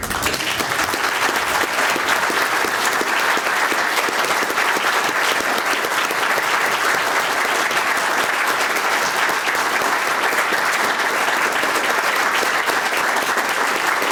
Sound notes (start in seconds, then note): 1.6 applause